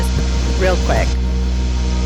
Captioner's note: microphone jostles